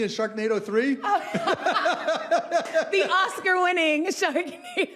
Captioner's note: both laughing